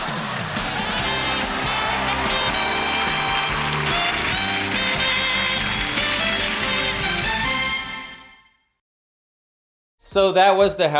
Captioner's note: laughs from in-studio audience